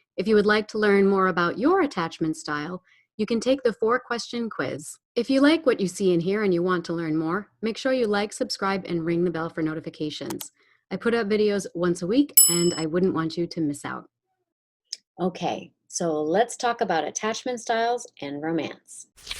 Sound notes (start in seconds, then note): 10.3 computer mouse clicks; 12.4 desk bell rings; 19.2 page flips